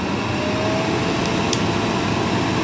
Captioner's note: the vacuum cleaner is a bit noisy